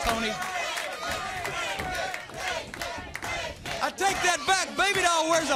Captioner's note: crowd chatter